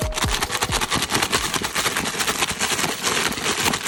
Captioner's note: struggling sounds